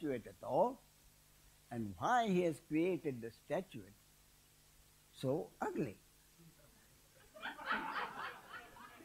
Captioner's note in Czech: smích